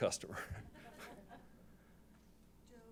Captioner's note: laughter